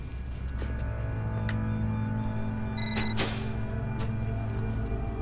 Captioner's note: device beeping